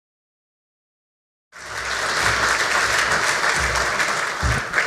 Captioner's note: audience claps